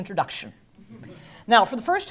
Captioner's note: laugh